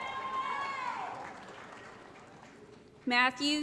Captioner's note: applause & Cheering